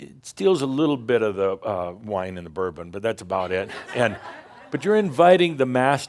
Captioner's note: some laughter